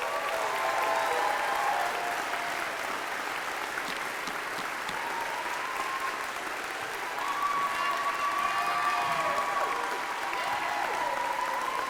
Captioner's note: applause